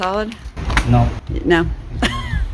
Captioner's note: laughs